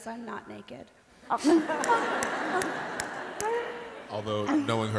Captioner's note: laughter